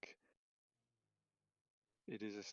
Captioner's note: silence